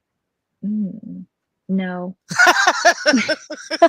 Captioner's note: laughs